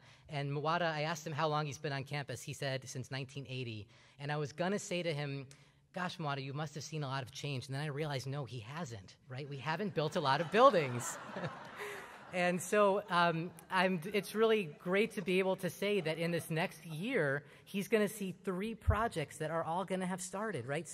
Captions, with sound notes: And Muwata, I asked him how long he's been on campus. He said, since 1980. And I was going to say to him, "Gosh, Muwata, you must have seen a lot of change." And then I realized, no, he hasn't, right? We haven't built a lot of buildings. [ Laughter ] And so it's really great to be able to say that in this next year he's going to see three projects that are all going to have started, right?